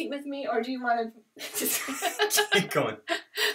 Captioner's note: laughter